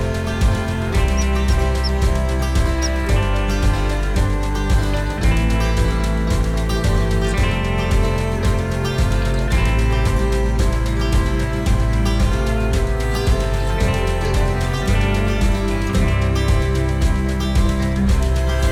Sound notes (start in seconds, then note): 0.1 more squirrel noises